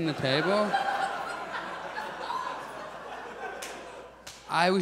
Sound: audience laughs

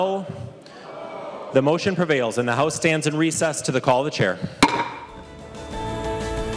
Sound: chorus of ayes

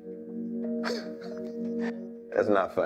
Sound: Andre chuckles

